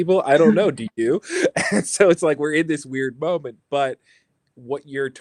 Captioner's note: laughs